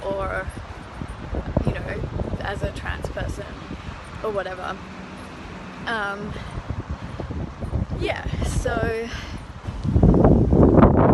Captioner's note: wind